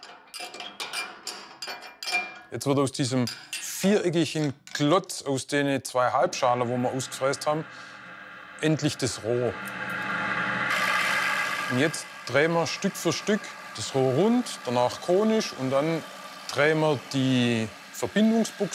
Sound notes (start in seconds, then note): 0.0 metal clinking; 9.9 machine noise